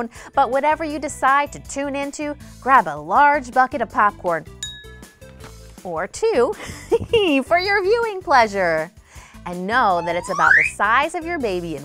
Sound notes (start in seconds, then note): 6.4 laughs